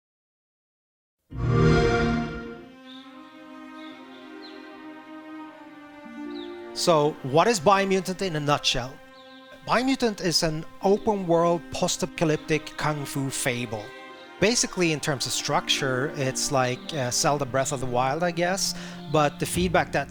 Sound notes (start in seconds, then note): 1.3 xbox sound